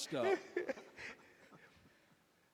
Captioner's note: laughter